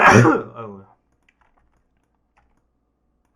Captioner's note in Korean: 목을 가다듬음